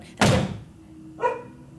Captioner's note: door slam